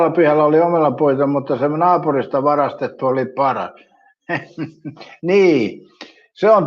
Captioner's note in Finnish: naurua